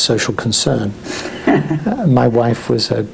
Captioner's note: laughs